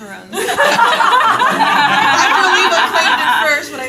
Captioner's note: laughter